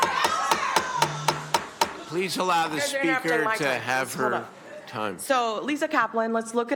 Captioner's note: shouting